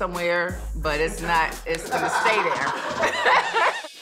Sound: laughs

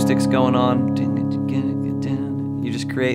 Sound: imitates acoustic guitar

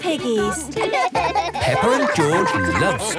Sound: both laugh

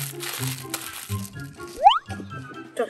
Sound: sliding whistle sound

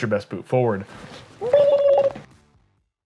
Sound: gobbling sound

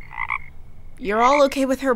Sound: frog croaked

